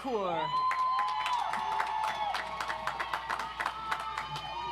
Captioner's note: audience applauds